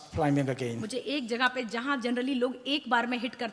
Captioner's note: speaks foreign language